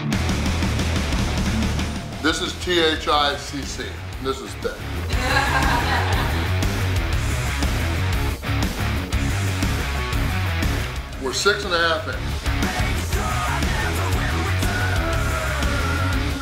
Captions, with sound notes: This is T-H-I-C-C. This is thicc. (audience laughing) (upbeat rock music) We're six and a half minute. (upbeat rock music)